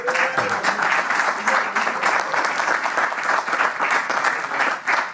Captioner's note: applause